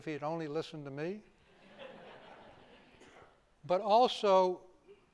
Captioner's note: laughter